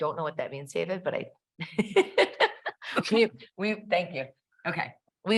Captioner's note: laughs